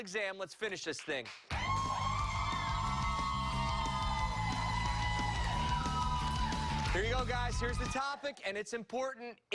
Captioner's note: cheers and applause